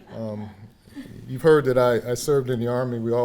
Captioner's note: audience laughing